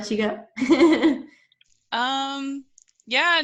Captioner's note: laughing